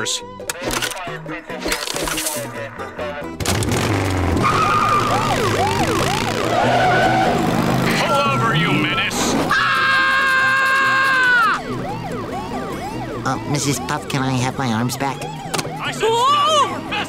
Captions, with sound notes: [chatter on CB] [siren blaring] Pull over you menace. [screaming] [siren blaring] Uh, Mrs. Puff, can I have my arms back? I said, stop your vessel!